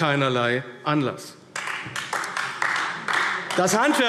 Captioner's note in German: Beifall AfD